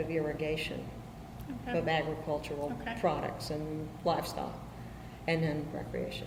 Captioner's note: none